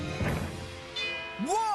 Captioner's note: bell Ringing